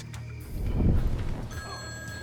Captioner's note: phone rings